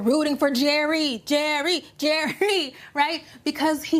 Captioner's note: chuckling